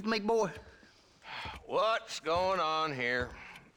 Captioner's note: sigh